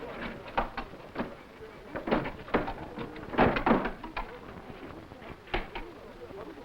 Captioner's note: servants chattering; furniture rustling